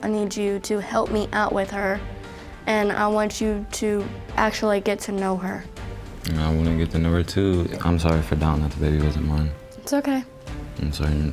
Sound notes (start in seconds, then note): none